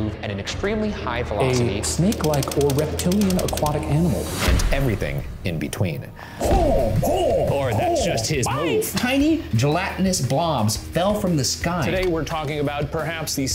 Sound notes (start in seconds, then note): 6.4 grunting